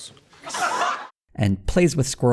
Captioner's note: audience laughter